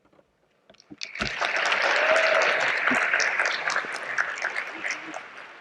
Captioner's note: audience applauding